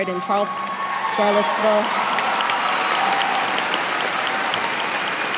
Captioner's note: cheers and applause